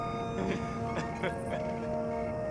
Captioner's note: laughs